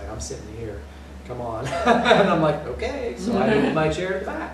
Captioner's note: laughter